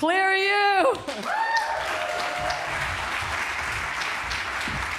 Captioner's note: applause